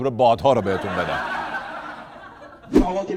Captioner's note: laughter